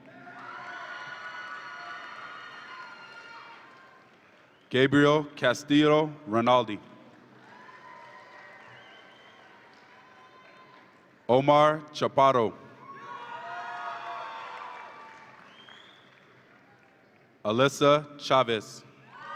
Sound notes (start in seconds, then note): 0.0 audience applauds and cheers; 7.4 audience applauds and cheers; 12.9 audience applauds and cheers